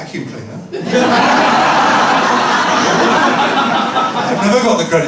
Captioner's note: laughter